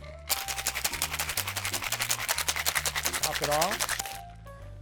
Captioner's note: ice cubes shaking in muddler